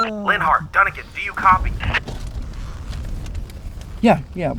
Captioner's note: police radio beeping; man On Police Radio